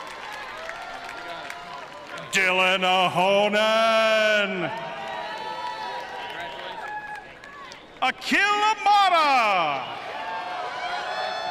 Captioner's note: cheering and applause